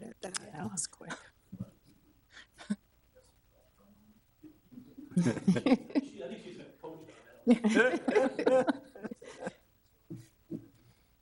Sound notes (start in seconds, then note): 2.2 people chuckle; 7.4 audience chuckles